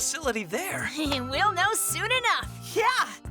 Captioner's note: chuckles